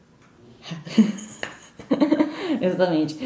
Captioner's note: laughs